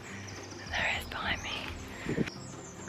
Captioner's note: whispering